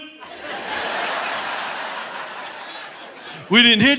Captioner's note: audience laughing